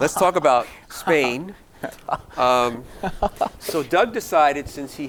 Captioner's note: giggling